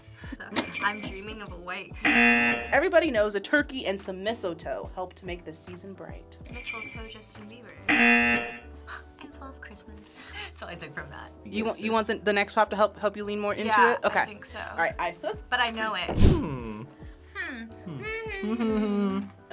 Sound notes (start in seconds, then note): 0.6 bells jingling; 2.0 buzzer; 7.8 buzzer